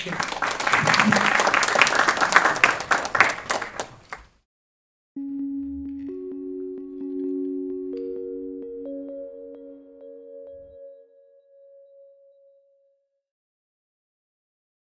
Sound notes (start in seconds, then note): 0.0 audience applauds